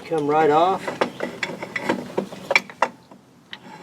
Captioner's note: metal clunks